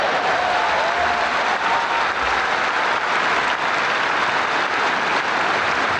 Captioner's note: crowd cheering and applauding